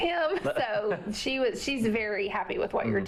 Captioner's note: laughter